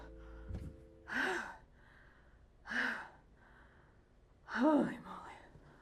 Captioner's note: heavy breathing